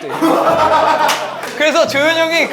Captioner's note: ha ha ha ha ha